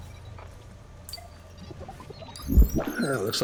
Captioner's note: digital chime; digital warbles